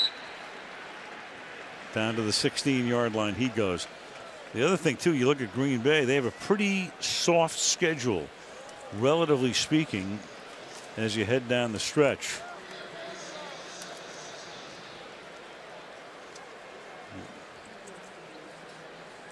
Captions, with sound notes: [whistle blows] Down to the 16-yard line he goes. The other thing too, you look at Green Bay, they have a pretty soft schedule, relatively speaking, as you head down the stretch. [pa announcement]